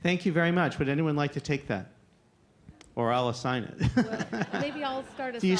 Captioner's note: laughter